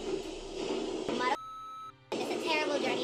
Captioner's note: beep